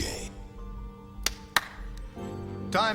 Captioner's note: Harry claps